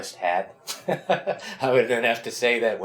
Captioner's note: laughs